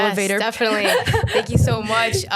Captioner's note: laughs